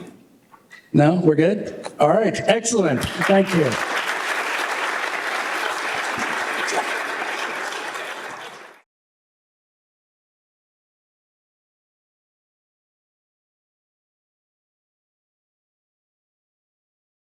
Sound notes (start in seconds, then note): 4.6 applause